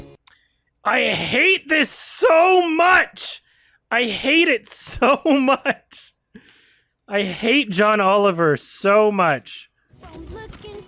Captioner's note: chuckles